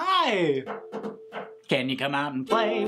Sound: knocks on ukulele

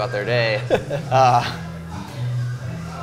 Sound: laughs

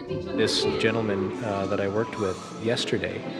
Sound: voiceover

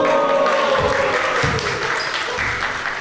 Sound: fans cheer

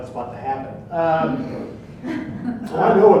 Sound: audience laughs

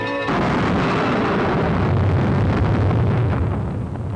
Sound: Jacob booming

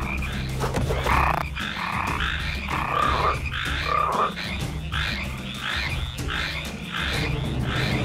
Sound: croaking

